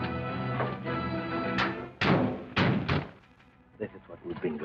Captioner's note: car doors thud